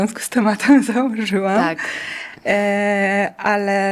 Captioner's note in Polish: wciągnięcie powietrza